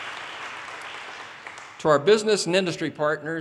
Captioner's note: audience cheers and applause